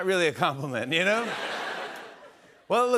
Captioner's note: laughter